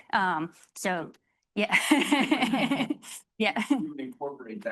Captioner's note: laughing